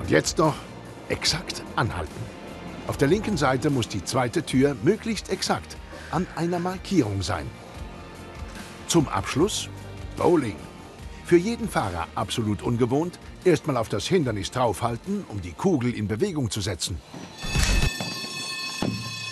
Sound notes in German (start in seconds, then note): 17.2 Straßenbahn klingelt